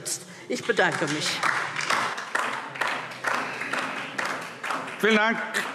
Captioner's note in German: Beifall DIE LINKE